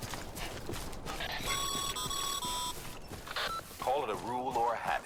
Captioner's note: radio call